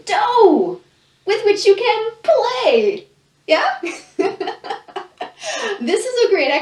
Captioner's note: laughs